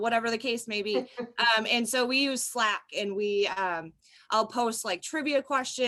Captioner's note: laughter